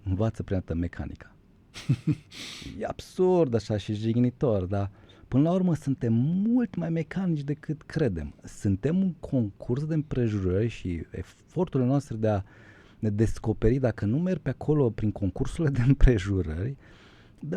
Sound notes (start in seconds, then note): 1.7 laughter; 3.5 snoring